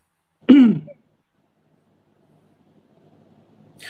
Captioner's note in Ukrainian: прочищення горла